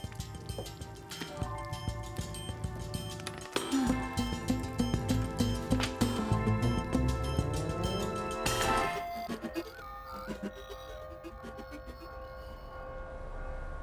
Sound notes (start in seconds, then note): 11.3 clock chimes